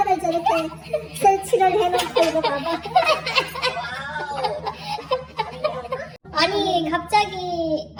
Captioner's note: family laughing